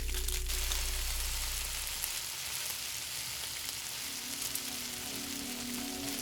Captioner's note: fire crackling; food sizzling; light music; food sizzling